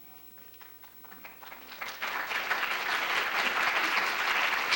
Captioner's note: applause